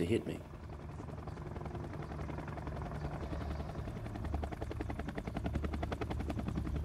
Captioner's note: helicopter sounds, machine guns and explosions